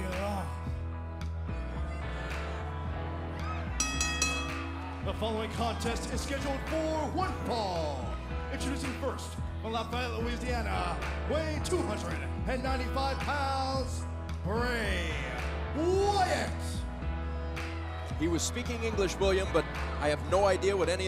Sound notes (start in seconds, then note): 3.8 bell ringing